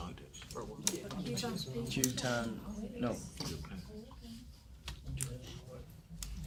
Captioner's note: students murmur